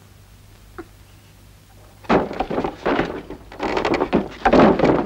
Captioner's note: banging